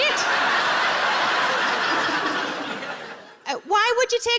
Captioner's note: audience laughs